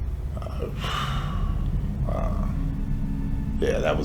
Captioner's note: sighs